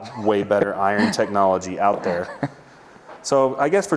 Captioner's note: laughing